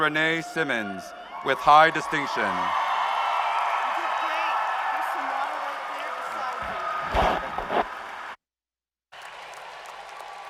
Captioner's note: cheers and applause